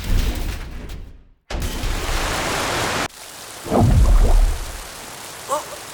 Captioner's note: water tank crashes; water rushing out